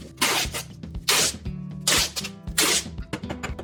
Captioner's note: upbeat music; tape crackles; hammer clanking